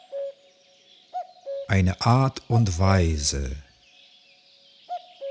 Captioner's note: german